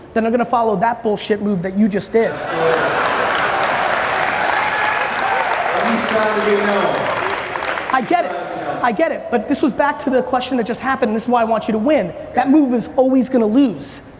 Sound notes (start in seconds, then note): 2.3 crowd applauds